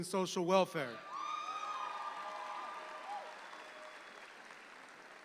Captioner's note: audience applauds